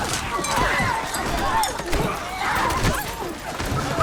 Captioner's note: indistinct screaming